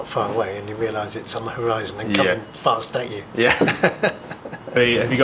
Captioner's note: laughs